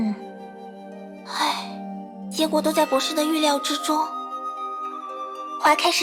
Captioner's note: sigh